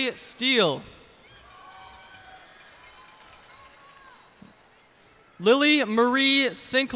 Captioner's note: cheers and applause